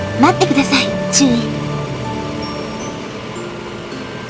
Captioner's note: rain